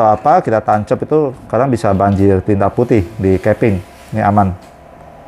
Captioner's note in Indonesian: suara mesin printer